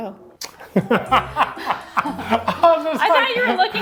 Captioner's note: both laughing